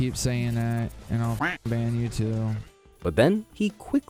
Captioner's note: duck quacks